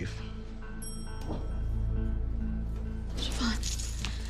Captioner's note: elevator bell dings